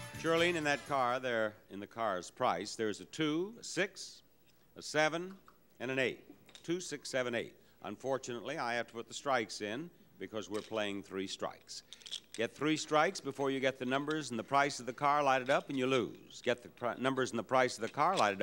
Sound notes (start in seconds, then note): none